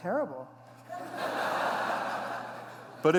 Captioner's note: laughter